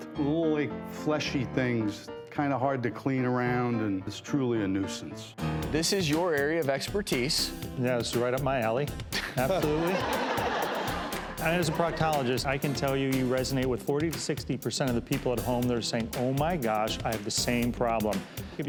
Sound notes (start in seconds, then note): 9.2 audience laughs